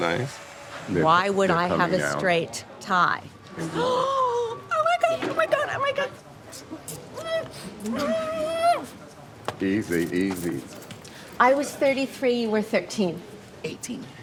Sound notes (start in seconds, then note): 3.3 gasping; 6.8 kisses smacking